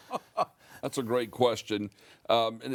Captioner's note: laughs